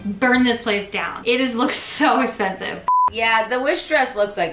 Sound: beep

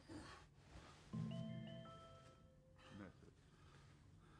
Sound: mobile bleeps - "message"

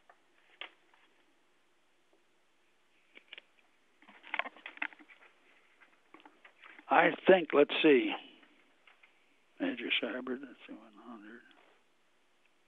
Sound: pause

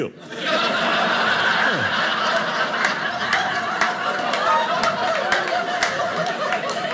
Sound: audience laughing

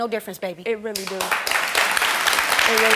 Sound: audience clapping

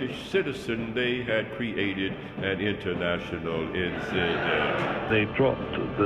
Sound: audience laughs

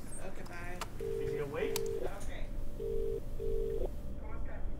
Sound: ringing

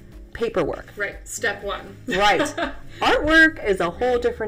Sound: laughs

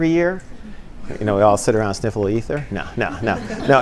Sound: laughter

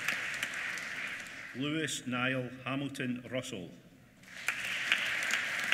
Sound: applause

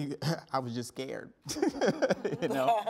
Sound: laughing

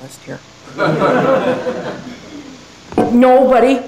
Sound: laughter

